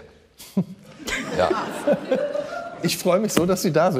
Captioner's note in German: Lachen